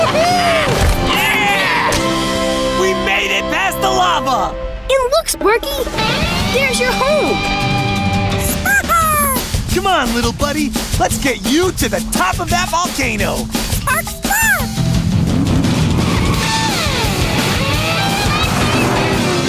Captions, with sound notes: Yeah! We made it past the lava! And look, Sparky, there's your home. Spark! Come on, little buddy. Let's get you to the top of that volcano. Spark, spark. [accelerating]